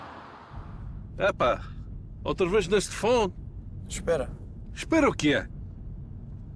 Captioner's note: group speaking in foreign language